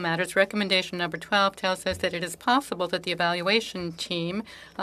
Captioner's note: speaking French